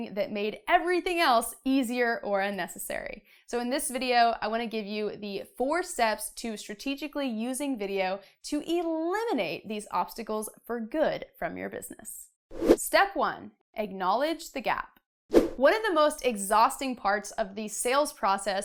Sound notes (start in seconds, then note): 12.4 air whooshing